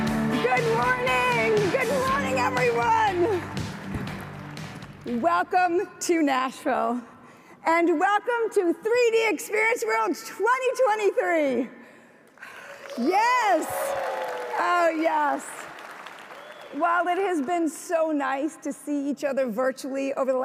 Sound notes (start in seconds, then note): 12.4 audience applauds